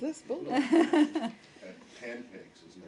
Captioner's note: laughter